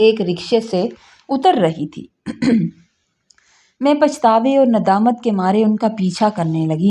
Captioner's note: clears throat